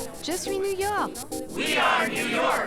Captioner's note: speaking foreign language